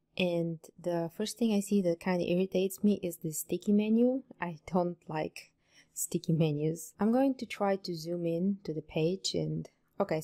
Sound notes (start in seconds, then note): none